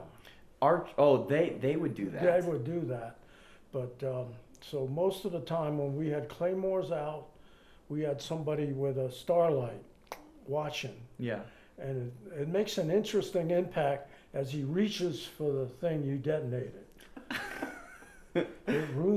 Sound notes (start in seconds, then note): 10.4 clicks; 17.1 laughs